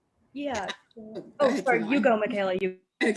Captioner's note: chattering